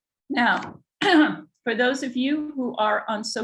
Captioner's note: clears throat